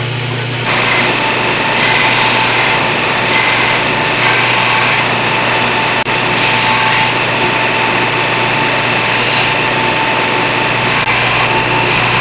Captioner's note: grinder noise